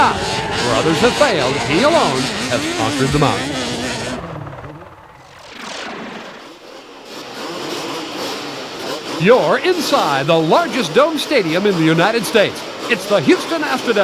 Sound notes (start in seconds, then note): 7.7 engines rev